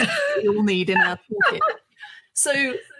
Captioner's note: chuckles